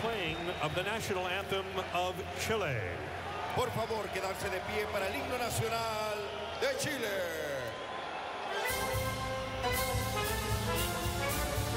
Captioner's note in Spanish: aplausos